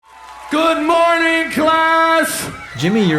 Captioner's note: applause